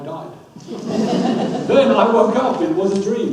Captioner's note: audience laughs